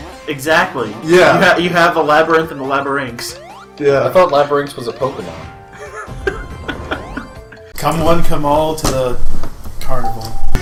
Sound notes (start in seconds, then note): 5.7 chuckles